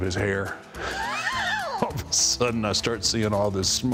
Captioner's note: laughs